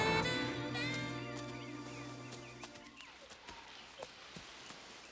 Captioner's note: birds chirping